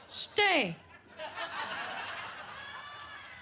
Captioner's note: audience laughs